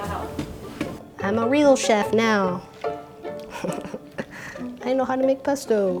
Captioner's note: laughs